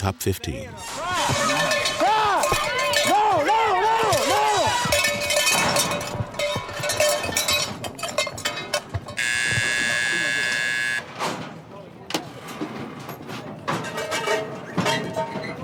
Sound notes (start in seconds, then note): 1.9 cheering and bells; 9.1 buzzer